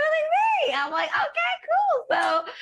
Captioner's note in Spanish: laughs